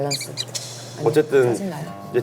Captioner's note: whisper